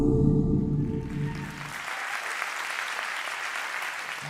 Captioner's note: applause